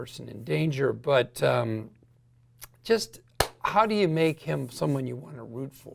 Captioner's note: claps hands